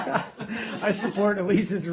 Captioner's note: laughter